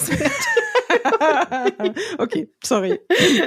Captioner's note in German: lachen